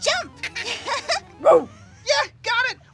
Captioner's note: laughs